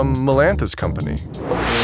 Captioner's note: the noise spikes